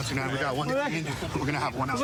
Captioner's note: excited chatter